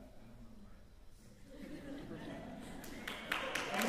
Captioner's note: laughter; applause, cheering